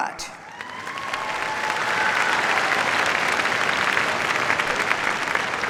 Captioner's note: cheers, applause